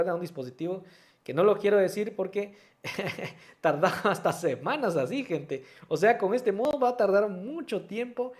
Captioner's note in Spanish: risas